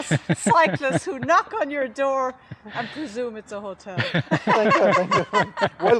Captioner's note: laughter